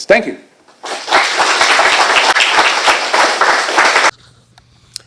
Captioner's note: applause